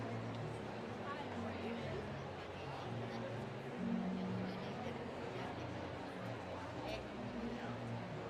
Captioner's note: none